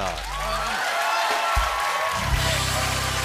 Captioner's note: cheers and applause